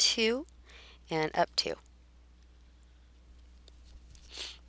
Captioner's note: pause